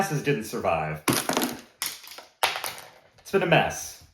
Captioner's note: glasses falling to the floor